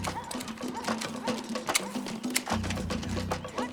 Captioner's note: dog barks in distance